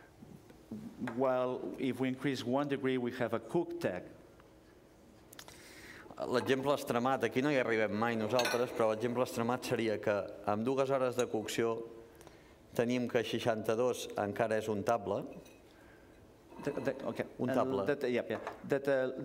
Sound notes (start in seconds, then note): 0.0 speaking catalan; 10.6 speaking catalan